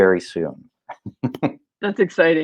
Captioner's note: laughing